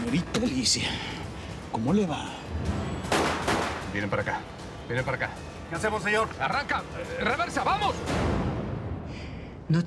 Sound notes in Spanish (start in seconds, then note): 3.0 Disparos